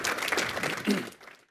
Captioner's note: audience applauding